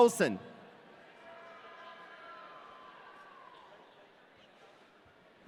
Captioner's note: audience cheering